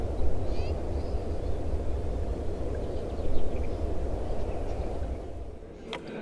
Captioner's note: chirping and waves continue